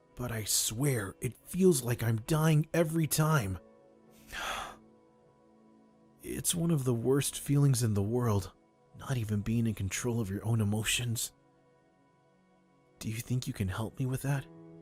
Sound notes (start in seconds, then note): 4.2 sighs